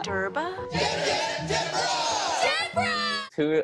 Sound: crowd

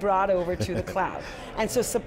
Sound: John Furrier chuckling

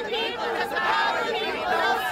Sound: chanting

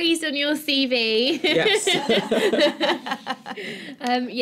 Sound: laughter

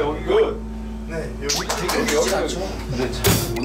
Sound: clapping

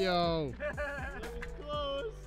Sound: group laughing

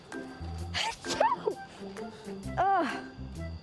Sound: sneezes

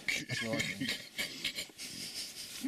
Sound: chokes/laughs

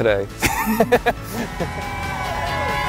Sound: laughs

